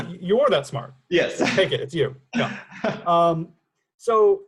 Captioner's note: chuckles